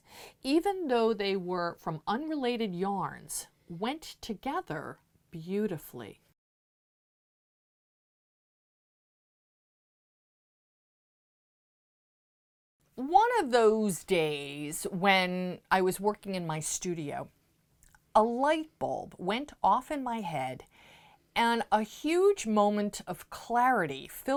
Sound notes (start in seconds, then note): 6.3 no Sound Present